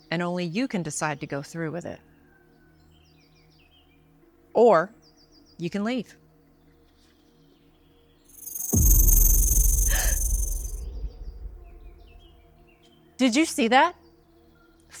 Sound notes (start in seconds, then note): 8.4 snake rattles; 9.6 snake hisses; 10.2 Tiffany gasps